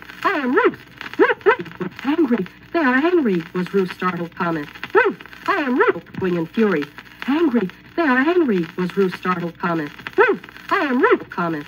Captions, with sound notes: angry" was Ruth's startled comment. Ruth...(record skips) "angry. they are angry" was Ruth's startled comment. "Ruth! i am Ruth!"(record Skips) ..ellowing in fury. "angry they are angry" was Ruth's startled